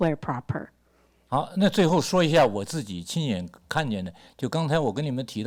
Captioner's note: speaks Mandarin